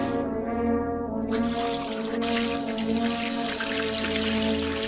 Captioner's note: water splashes